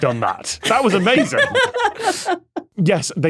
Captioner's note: guests laugh